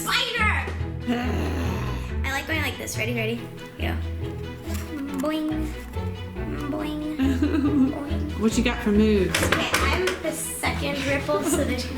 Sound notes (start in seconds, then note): 7.2 laughter